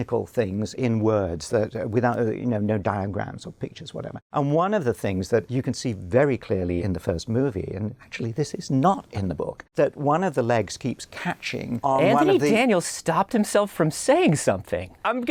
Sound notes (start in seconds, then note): none